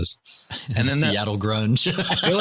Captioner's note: laughter